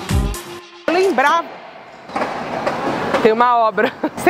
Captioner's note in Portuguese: sons de obra